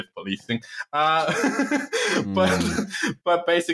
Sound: laughter

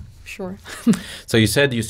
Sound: chuckles

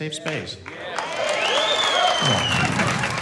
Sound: cheers, claps

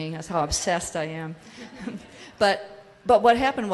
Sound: audience laughs

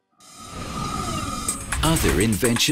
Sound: whirring

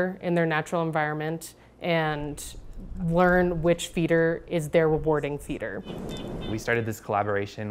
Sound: chickadees chirping

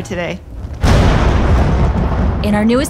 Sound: thunder crashes

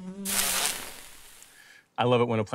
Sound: bug buzzing; sizzling

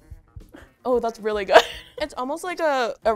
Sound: chuckling

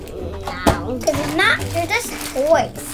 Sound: box thumps

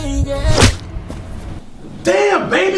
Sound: punch

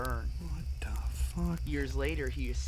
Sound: whispers

